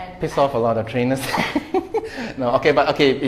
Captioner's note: laughs